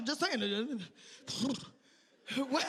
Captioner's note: sighing